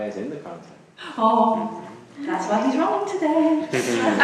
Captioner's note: voiceover; gasps; audience laughs